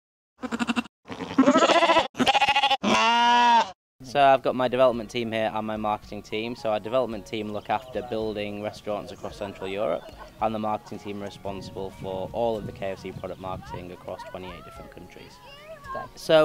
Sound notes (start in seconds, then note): 1.0 sheep baaing